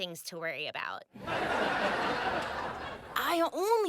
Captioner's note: audience laughing